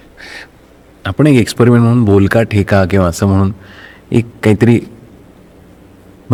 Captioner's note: spoken rhtyhm